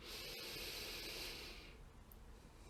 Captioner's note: long inhale